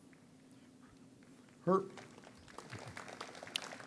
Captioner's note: audience applauds